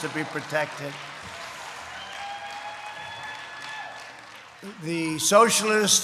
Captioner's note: applause